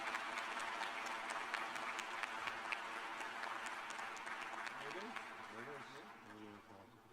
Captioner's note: applause